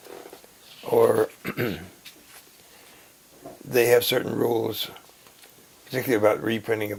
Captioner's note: cough